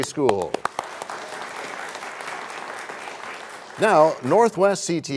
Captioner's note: applause